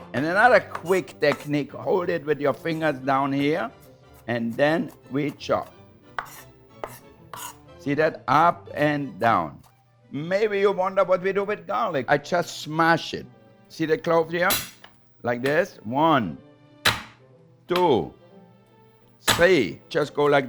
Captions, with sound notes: And another quick technique, hold it with your fingers down here, and then we chop. (knife scraping board) See that? Up and down. Maybe you wonder what we do with garlic. I just smash it. See the cloves here. (knife hitting board) Like this. One. (knife hitting board) Two. Three.